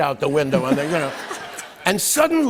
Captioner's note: laughter